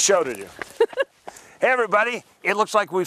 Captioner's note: laughs